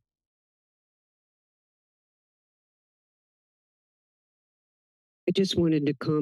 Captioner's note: silence